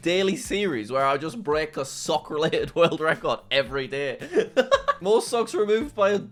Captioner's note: laughs